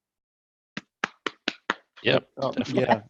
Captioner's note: laughs